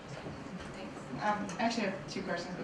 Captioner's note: voiceover